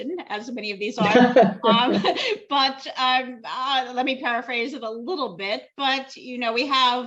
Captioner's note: laughter